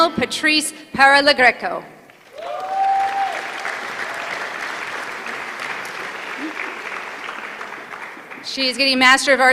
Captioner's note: applause